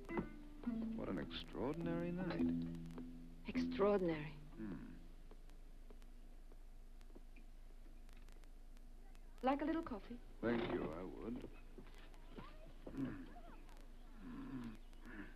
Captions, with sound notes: - What an extraordinary night. - Extraordinary. - Mm. - Like a little coffee? - Thank you, I would. (Jens shouts) (Beppe groans)